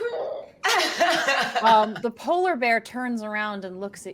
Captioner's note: laughs